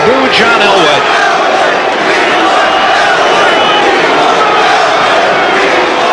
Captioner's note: Crowd chanting "We want Elway!"